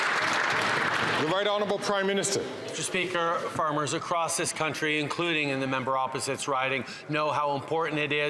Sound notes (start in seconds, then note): 0.0 some Applause